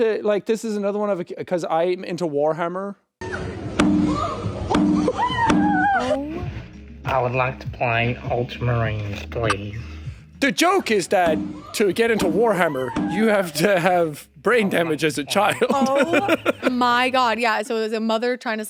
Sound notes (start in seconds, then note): 4.1 head knocking